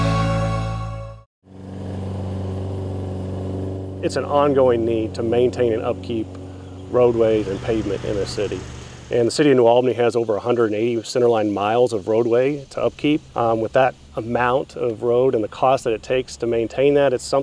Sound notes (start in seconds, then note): 1.7 lawn mower roaring